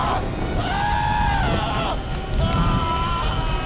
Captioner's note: screaming continues